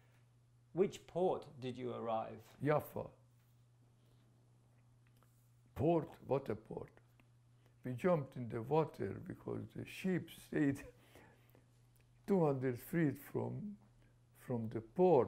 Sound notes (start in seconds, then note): 3.8 pauses for 3 seconds